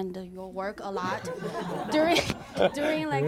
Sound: laughter

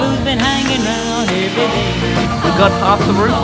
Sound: drill whirs

